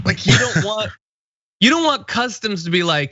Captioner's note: laugh